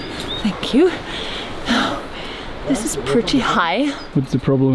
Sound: pants

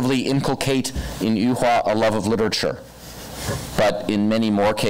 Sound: foreign language

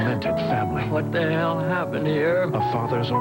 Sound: Martin Sheen, sobbing

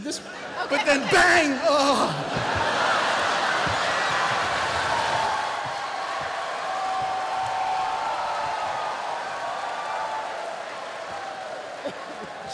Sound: moans

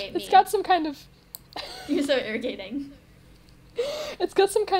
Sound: wheez

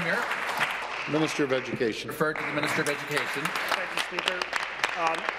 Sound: applause

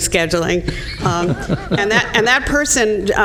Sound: laughter

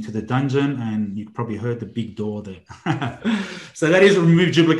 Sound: laughs loudly

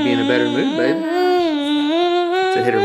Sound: cries

